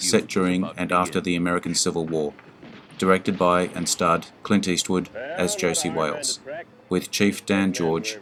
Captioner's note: as Josey Wales